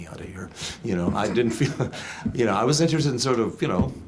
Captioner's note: laughs